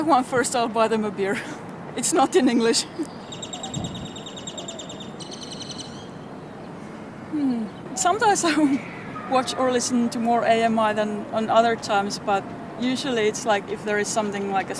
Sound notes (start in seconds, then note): 2.8 laugh; 3.2 BIRDS TWEET as breaths deeply; 7.2 sigh